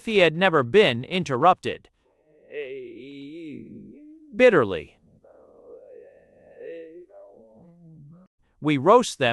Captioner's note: _With a bewildered uncertain growl. _